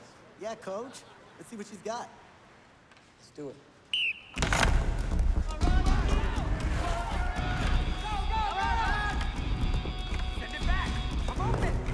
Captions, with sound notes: - Yeah, coach, let's see what she's got. - Let's do it. (whistling) (shouting) - Go, go, go! - Send it back! l'm open!